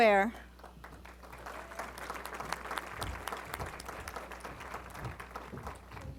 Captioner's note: applause